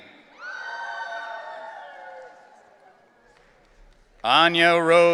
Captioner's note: audience cheering